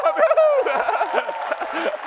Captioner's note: applause; laughs